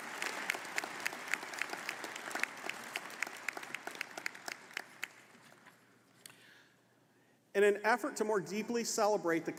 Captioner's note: applause